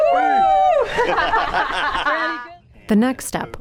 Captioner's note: laughter